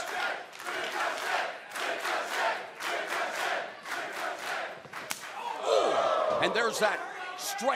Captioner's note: crowd cheering